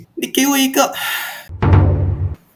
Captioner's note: sigh